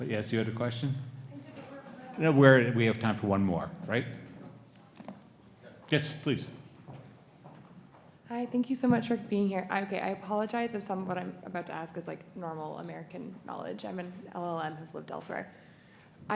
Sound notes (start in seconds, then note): 1.3 student speaks faintly